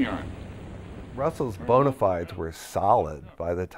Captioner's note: voiceover